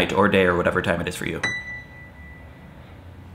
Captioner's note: ding